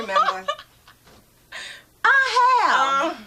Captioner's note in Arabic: تضحك